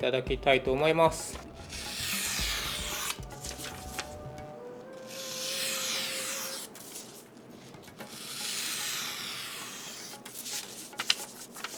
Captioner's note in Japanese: 新聞紙の音